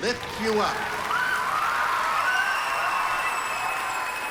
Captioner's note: cheering and applause